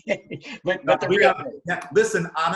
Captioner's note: murmurs